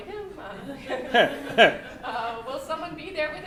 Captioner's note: laughter